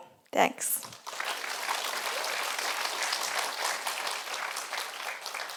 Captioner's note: audience applauding